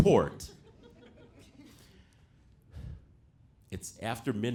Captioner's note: audience laughing